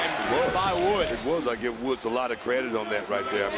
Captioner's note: crowd chants "nxt"